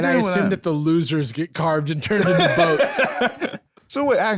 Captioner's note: laughs